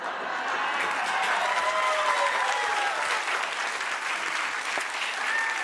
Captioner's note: audience cheers and claps